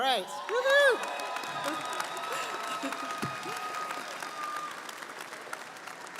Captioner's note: audience cheering & applauding